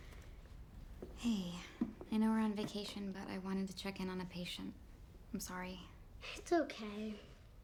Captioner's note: none